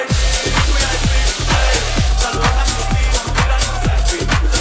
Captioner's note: smoke spraying